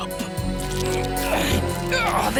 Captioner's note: grunting